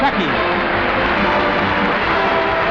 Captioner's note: audience applauding